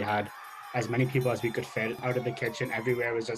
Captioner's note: crowd Noise